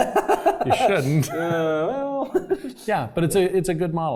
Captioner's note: laugh